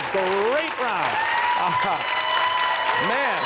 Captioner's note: cheers and applause